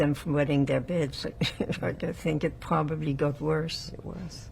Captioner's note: laughing